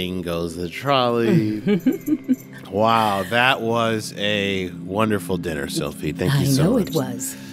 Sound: laughs

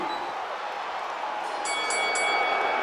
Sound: bell

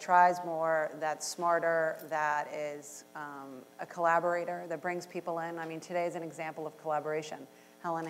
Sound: none

